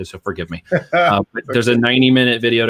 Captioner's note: laughs